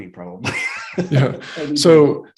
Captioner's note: laughs